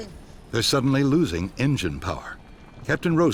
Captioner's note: voiceover